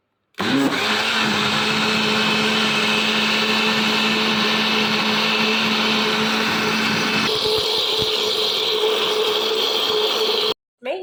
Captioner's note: grinding